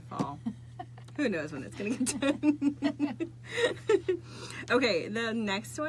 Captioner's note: laughing